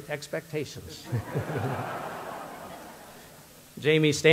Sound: audience laughter

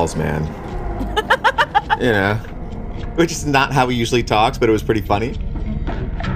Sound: laughs

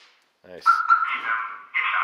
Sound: car alarm chirping; computer Voice

